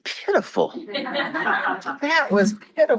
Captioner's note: crowd laughs